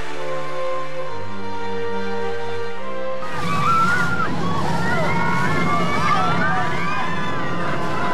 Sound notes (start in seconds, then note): 3.2 crowd screaming